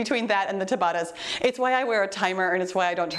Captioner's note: timer beeps